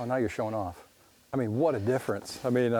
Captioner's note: voiceover